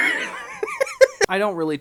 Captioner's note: laughter